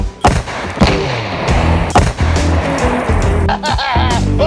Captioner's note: explosion booming; laughing